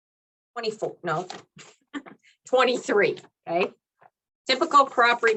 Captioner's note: laughs